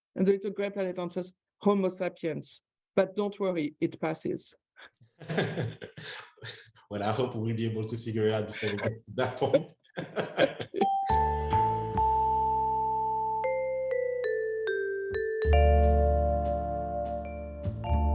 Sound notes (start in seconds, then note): 5.2 laughter; 9.9 laughter; 10.8 light lounge music